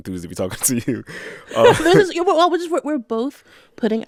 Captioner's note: laughter